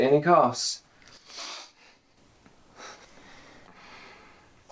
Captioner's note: sniffing